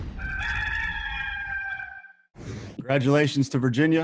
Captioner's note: rooster crowing